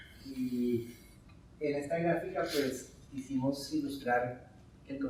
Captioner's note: speaking in Spanish